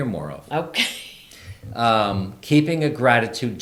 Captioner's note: laughs